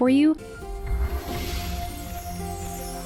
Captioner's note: whooshing; pleasant music